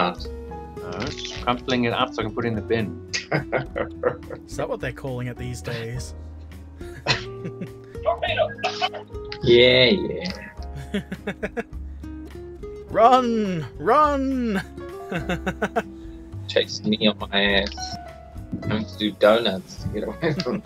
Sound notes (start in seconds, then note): 3.1 laughter; 13.7 laughter